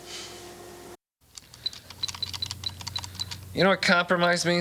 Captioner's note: keyboard clicking